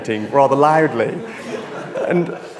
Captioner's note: audience laughs